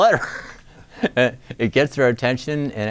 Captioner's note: laughs